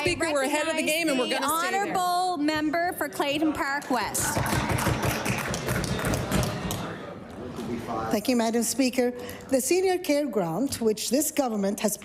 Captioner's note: applause